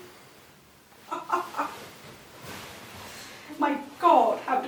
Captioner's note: laughs